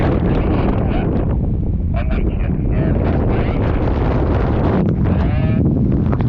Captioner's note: roaring wind drowns out the radio